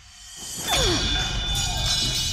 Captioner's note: clanging